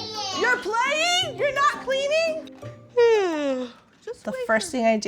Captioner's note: yawns